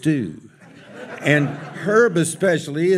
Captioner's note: audience laughs